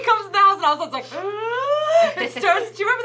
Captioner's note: laughs; gasps